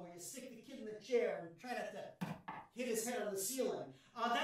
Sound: knocks on ceiling

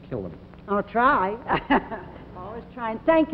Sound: laugh

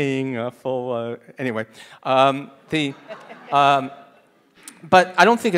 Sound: audience laughing

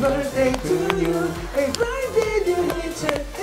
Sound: humming

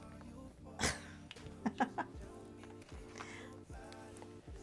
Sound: laughs

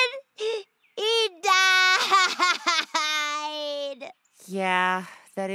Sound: cries

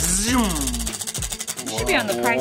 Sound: wheel spinning

